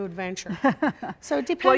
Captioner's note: laughing warmly